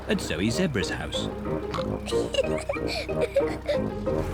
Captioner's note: oinks and giggles